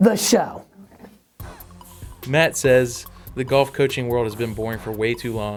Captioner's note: voiceover